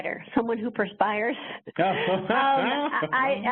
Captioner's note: laughs